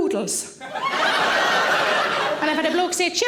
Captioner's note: audience laughing